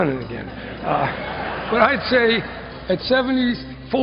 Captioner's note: laughter